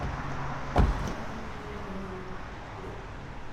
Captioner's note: door thuds